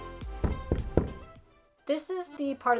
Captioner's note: upbeat music; door knocks